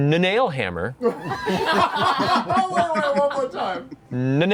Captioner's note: laughter